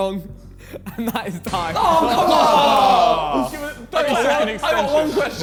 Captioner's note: men groaning